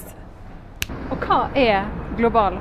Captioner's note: snap